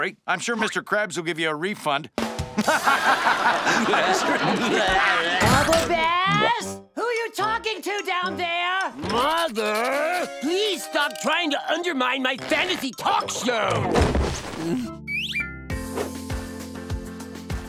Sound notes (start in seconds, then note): 2.6 laughing